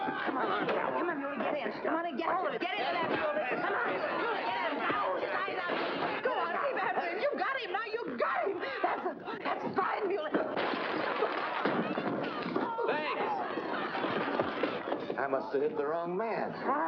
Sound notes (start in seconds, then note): 0.0 patrons cheering; 2.8 struggling & commotion; 2.9 patrons cheering; 10.4 bottle smashing